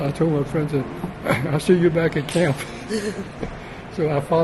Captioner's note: laughs